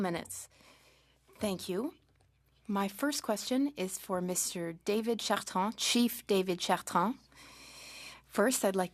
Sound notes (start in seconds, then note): 0.6 speaking French